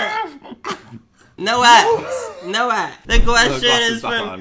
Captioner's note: coughs